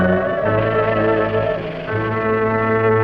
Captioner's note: suspenseful music continues; serpent rattling; dramatic music